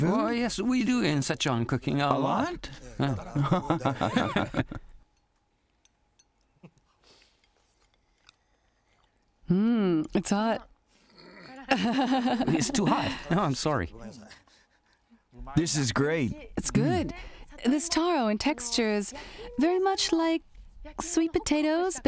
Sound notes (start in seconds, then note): 11.2 laughing